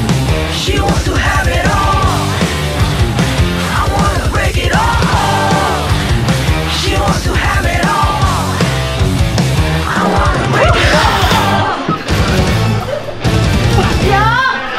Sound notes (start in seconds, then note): 9.8 surprised